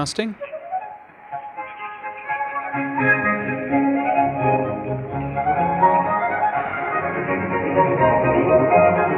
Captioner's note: audio plays with static